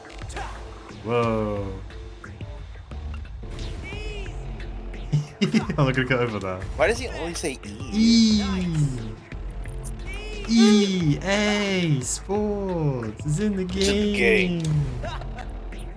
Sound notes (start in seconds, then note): 5.1 chuckles